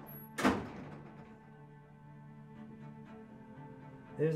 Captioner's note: door clatters